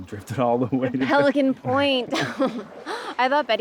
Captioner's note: laughs